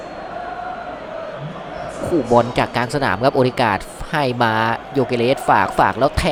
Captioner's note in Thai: ปรบมือ